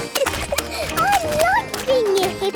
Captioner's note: giggling